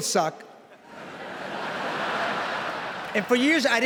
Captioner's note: laughter